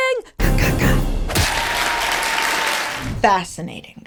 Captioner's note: audience applauding